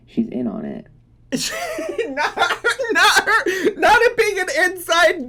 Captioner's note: laughing